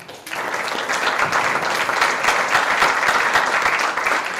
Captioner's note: audience applause